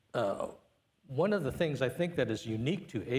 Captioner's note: none